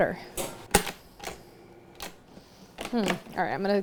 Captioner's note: mixer whirring